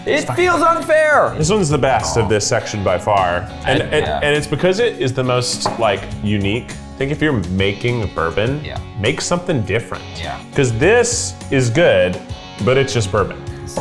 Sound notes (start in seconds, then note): none